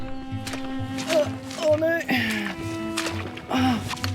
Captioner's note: sloshing